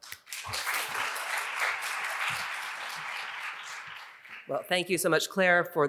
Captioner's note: audience applauding